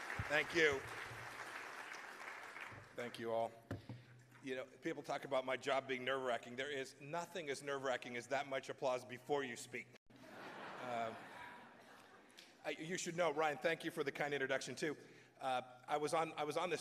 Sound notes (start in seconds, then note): 10.2 laughter